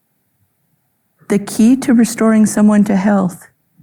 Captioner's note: none